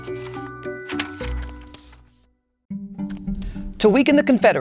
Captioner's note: paper rustling